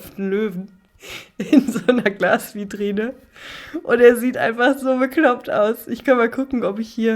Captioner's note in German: gelächter